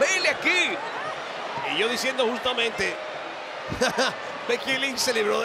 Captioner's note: laugh